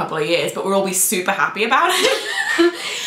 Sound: laughter

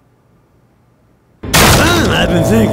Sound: door smashes

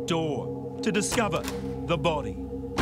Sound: doorknob clacks

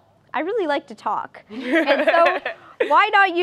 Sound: laughter

